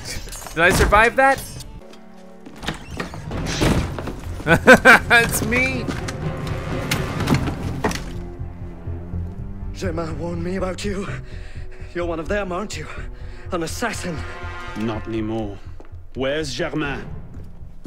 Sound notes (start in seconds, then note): 2.4 creaking; 3.2 slam; 4.4 laughs; 6.6 intense orchestral music